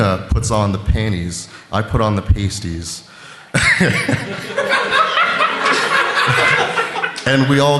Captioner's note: laughter